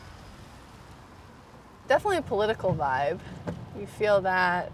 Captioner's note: traffic noise